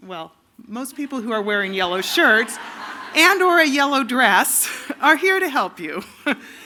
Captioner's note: laughter